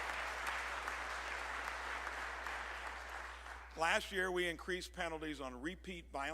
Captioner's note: applause